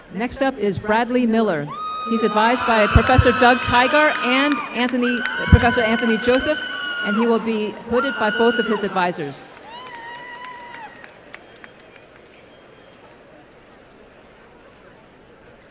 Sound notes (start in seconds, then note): 9.5 applause